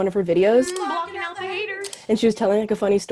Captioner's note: humming